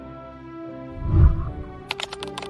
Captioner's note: whooshing sound; keyboard clicking